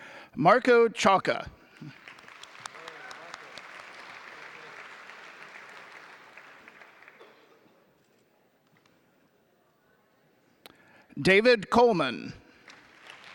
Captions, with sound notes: Marco Ciocca. (audience applauding) David Coleman.